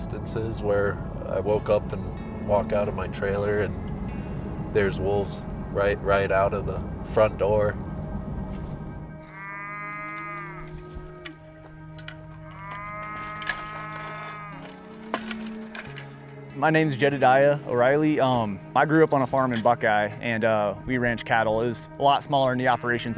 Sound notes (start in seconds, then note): 12.2 cattle mooing